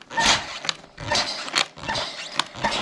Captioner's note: beep